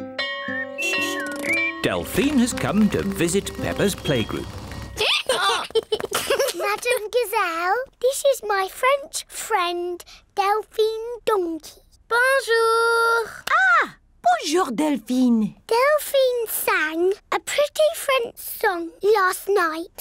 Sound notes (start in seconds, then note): 0.1 bell rings; 4.7 brays; 5.0 both giggle